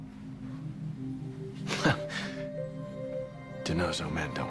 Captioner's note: scoffs